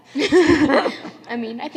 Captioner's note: laughter